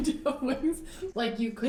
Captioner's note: laughs